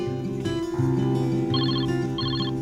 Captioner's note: phone ringing